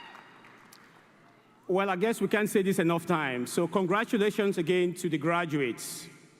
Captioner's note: applause